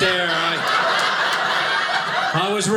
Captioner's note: audience laughing